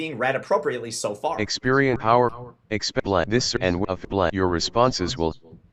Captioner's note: NVDA talking